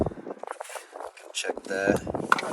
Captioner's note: wind blowing